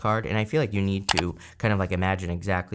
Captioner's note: mouse clicks